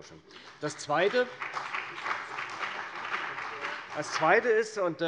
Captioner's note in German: Beifall bei der CDU und dem BÜNDNIS 90/DIE GRÜNEN